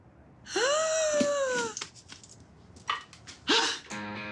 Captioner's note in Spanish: Grito ahogado